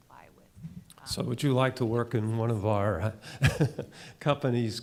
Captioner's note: chuckles